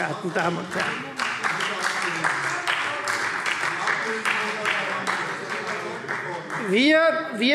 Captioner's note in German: Beifall Freie Demokraten - Zurufe